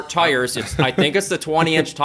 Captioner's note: laughter